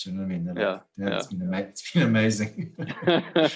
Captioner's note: laugh